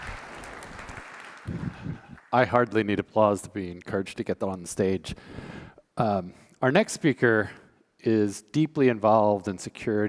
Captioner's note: applause